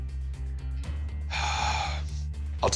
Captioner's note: sighs